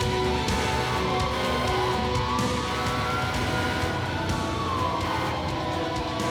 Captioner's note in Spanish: sirena de bomberos